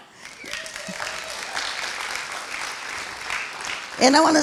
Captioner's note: applauding